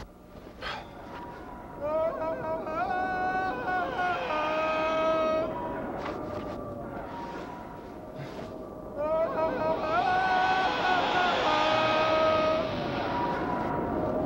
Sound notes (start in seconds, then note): 1.4 man howling; 6.4 intense swelling music